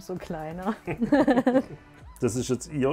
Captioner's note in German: Sie lachen